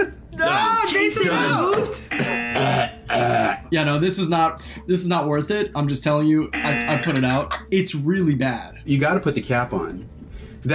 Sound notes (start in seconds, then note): 2.1 buzzer; 2.1 coughs and gags; 6.5 buzzer